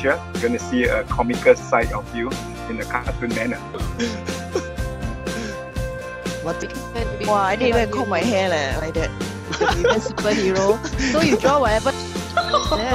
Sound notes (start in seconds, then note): 3.6 giggles; 9.5 laughter